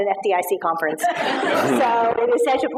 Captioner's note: laughter